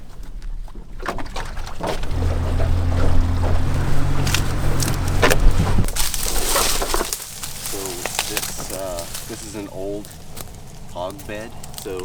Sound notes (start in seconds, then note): 2.7 engine working